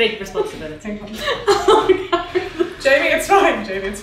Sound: laughing

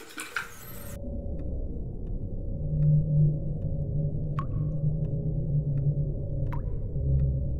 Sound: ominous rumbling; water dripping

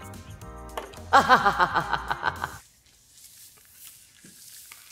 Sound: laughing

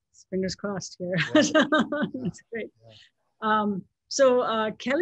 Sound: laughs

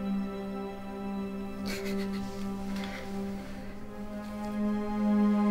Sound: emma sobs

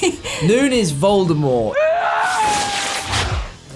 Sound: screams

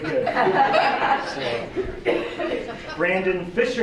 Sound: laughter

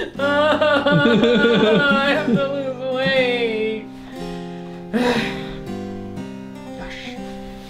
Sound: cries; sigh

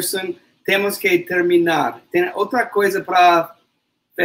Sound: speaks portuguese

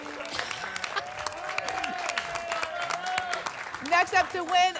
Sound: applause and cheering

